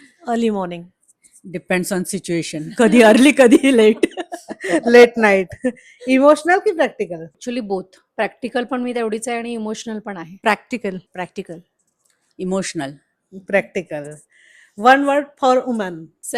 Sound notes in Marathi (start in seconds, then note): 2.8 हास्य